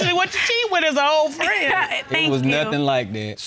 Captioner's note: laughs